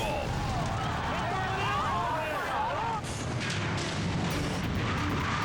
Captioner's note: people exclaiming; dramatic music